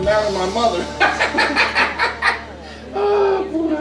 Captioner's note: both laughing